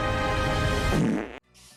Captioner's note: Shrek farting